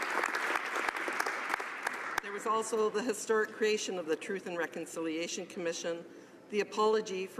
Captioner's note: applause